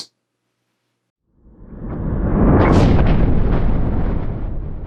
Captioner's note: thunder rumbling